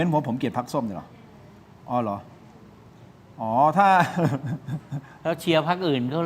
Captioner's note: laughter